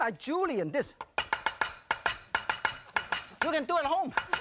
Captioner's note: knife chopping noises